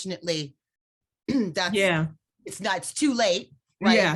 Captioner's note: clears throat